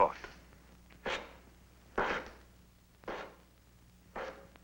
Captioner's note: footsteps tapping